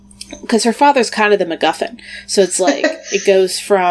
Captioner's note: laughs